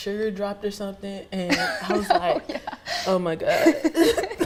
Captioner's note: laughs